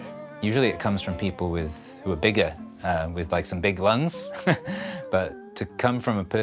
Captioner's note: chuckles